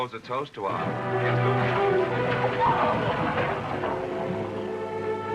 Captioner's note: clamouring, screaming